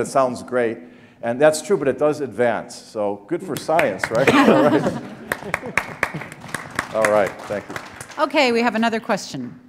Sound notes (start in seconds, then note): 4.1 laughter; 5.8 applause